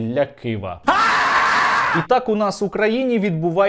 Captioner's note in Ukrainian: кричить